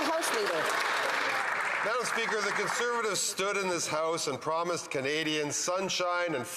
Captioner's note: applause